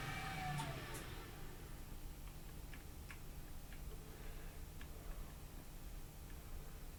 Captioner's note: machine fan stops spinning